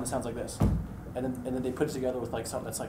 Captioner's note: hitting table